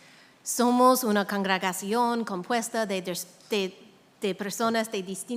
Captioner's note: speaking in a foreign language